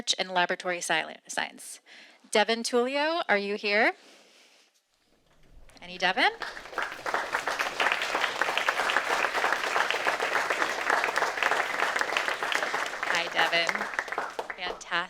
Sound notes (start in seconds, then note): 6.9 audience applauding